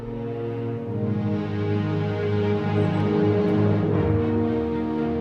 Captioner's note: birds chirping; gentle upbeat music